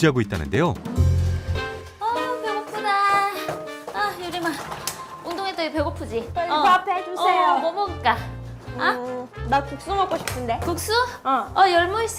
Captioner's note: voiceover